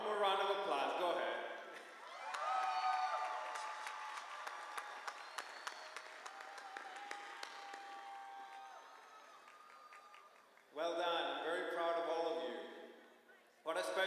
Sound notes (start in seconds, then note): 1.8 applause